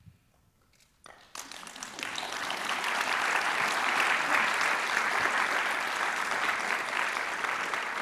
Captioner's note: applause